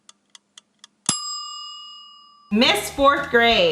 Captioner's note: bell dinging